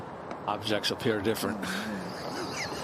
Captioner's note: laughter